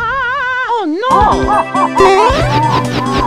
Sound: muffled laughter

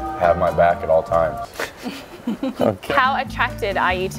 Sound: laughs

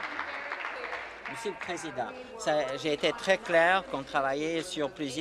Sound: applause

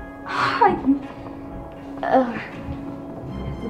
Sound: gasps

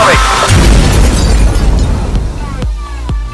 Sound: big explosion sound effect

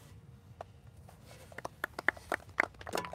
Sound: applauses

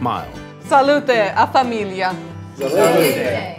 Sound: toasts in Italian

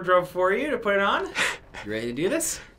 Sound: chuckles

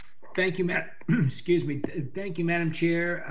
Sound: coughs

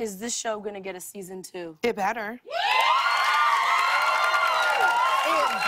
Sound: cheers and applause

